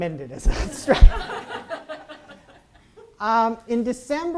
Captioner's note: audience laughs